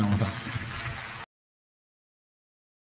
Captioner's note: applause